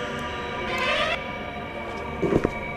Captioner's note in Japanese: 扉が開く音